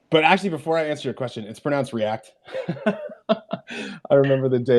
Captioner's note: laughs